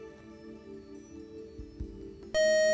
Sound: time-is-up buzzer

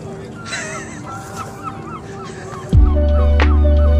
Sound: laughing

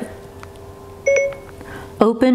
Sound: phone beeps

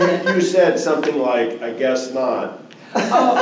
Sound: laughter

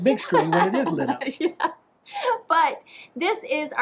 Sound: laughing

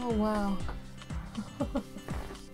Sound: laughs

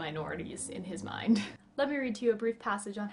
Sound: giggle

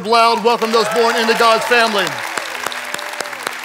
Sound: claps hands; congregants applauding and cheering

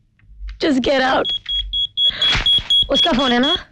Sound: pager ringing

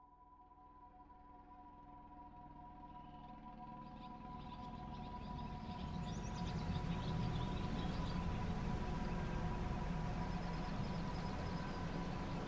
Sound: helicopter sounds

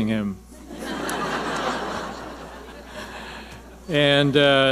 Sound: audience laughing

